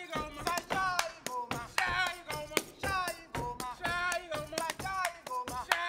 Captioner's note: speaking language other than English; feet stomping and hands clapping; speaking language other than English